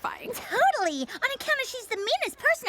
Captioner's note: laughter